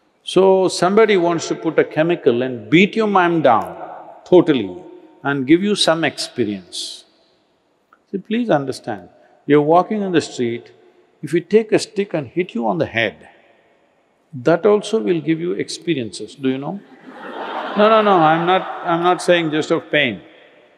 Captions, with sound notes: So, somebody wants to put a chemical and beat your mind down totally and give you some experience. See, please understand. You're walking on the street. If we take a stick and hit you on the head, that also will give you experiences, do you know? (Laughter) No, no, no. I'm not saying just of pain.